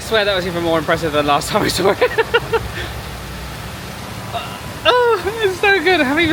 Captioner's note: laughs